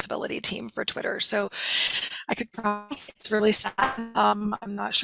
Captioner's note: audio distorts